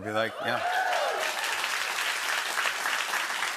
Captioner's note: cheers and applause